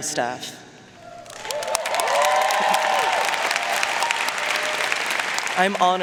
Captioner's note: audience cheering and applauding